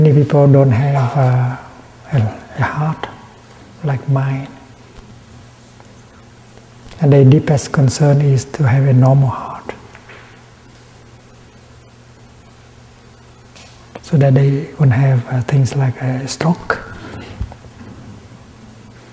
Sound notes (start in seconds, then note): none